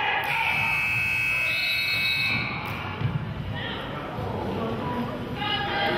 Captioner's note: whistle blows; buzzer honks